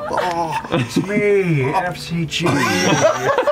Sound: laughter

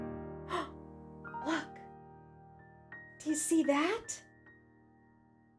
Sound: gentle music; gasping

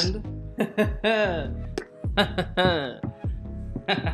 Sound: chuckles

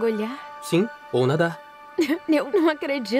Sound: laughs

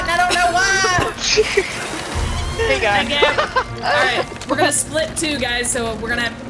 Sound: laugh

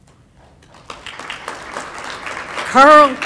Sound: applause

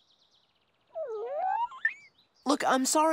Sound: chirping

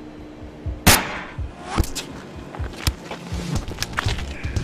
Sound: gun firing

